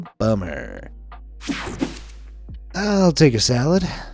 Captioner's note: page whooshing; page swishing